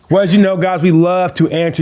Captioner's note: laughing